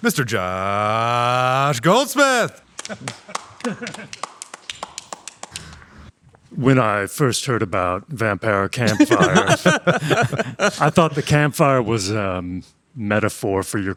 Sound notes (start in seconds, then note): 2.7 clapping; 8.8 everyone laughing